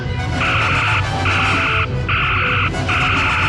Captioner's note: phaser fire